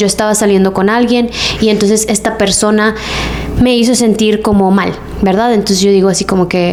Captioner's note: sighs